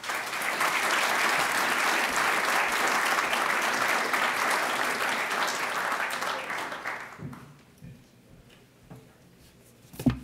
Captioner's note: applause